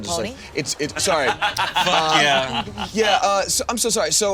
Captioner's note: all laughing